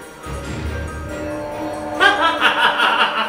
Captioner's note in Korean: 사아악, 효과음